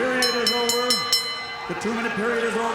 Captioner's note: match bell rings